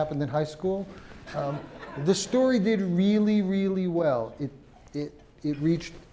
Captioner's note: laugh